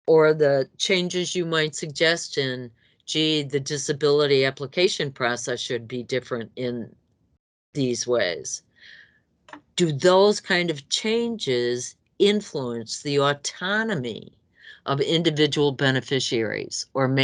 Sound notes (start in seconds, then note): none